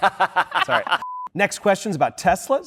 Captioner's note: laughing